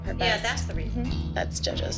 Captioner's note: scoffs